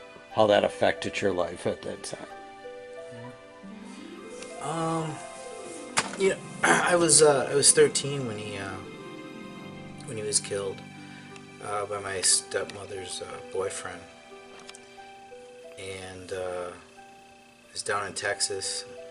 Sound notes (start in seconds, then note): none